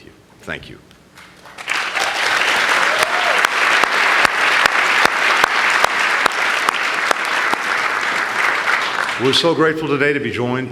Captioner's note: applause